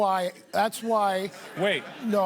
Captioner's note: laughter